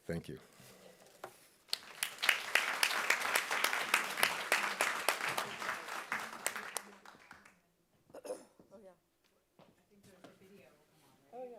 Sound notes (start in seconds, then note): 1.6 audience applauding; 8.1 clearing throat